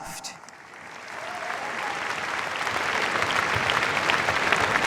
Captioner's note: cheers, applause